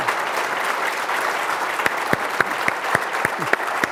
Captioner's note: applause